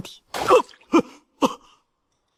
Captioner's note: cough, cough, cough